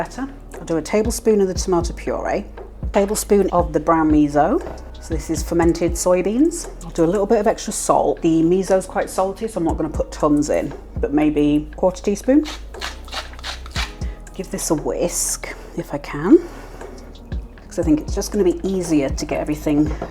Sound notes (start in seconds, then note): 12.4 salt mill grinding